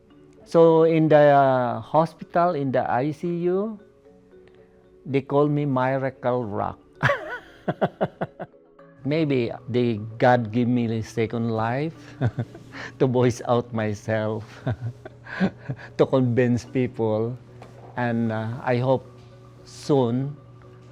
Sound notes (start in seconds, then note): 7.0 laughs; 12.1 chuckle; 14.5 chuckle